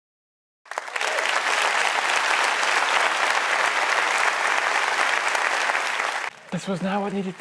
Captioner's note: applause